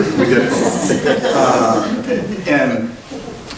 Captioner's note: laughing